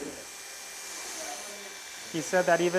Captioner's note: whirring